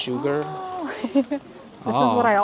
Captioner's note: Laughing